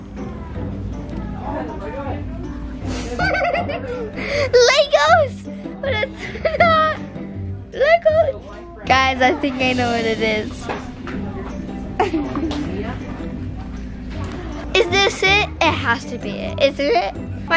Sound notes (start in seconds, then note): 2.9 laughs; 7.6 laughs; 11.9 laughs